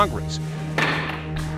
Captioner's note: gavel bangs